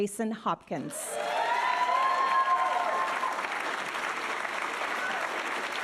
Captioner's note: audience cheering and applauding